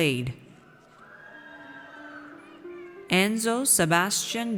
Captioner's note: audience cheers